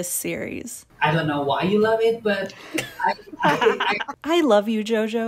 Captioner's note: maniacal laughter